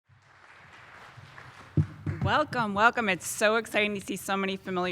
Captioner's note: applause